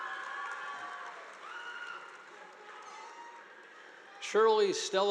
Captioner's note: audience applauding